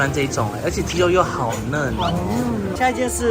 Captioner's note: chewing